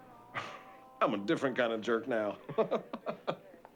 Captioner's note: laughs